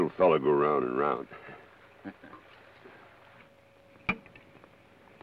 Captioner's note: Joshua chuckles